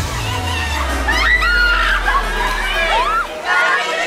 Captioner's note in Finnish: Huutaa